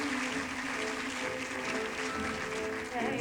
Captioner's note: applause